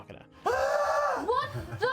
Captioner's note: yells